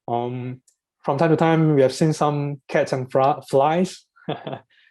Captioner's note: laughs